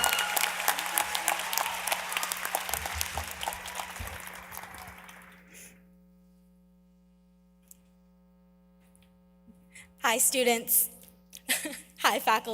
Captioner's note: applause